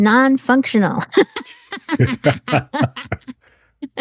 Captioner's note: laugh